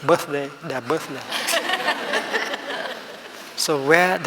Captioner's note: laughing